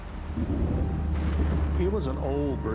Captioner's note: thunder and rain